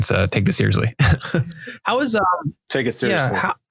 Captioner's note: chuckling